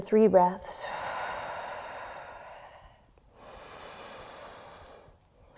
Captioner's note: deep breathing